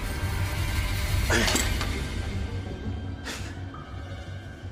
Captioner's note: grunts, exhales